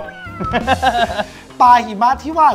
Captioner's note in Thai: หัวเราะ